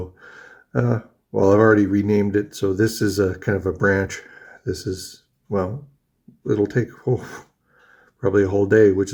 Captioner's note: huffs